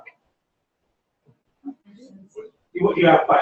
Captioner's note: pause